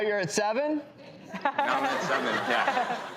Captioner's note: audience laughing